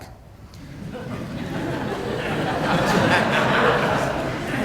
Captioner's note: audience laughing